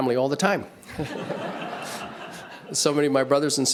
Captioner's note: audience laughs